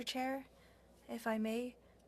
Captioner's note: speaking French